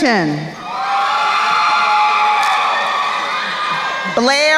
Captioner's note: crowd cheering